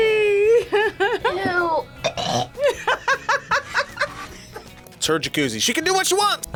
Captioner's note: laughs; gags; laughs